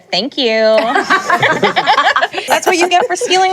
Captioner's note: laughter